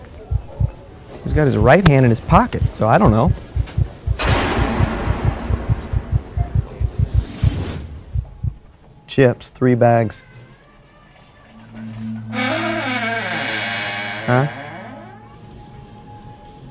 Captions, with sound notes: He's got his right hand in his pocket, so I don't know. (mysterious crash) (heart thumping) Chips, three bags. (door creaking) Huh?